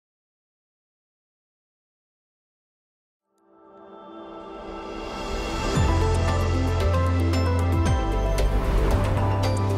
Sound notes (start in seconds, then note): 3.7 logo chiming